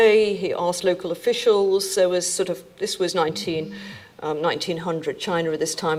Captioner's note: cell phone buzzing